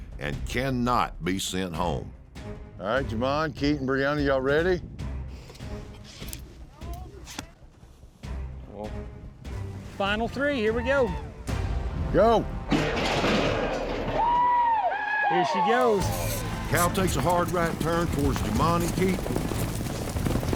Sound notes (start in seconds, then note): 5.3 air whooshing; 12.7 gates clanking, cowboys shout